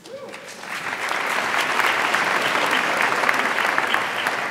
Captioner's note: audience applauds